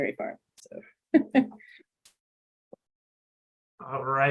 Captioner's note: chuckling